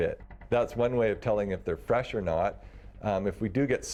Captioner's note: voiceover